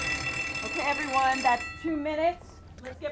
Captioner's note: bell rings